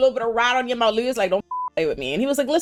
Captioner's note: beep